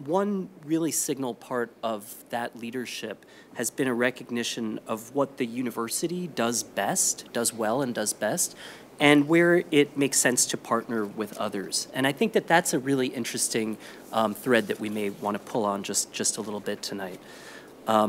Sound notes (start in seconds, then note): none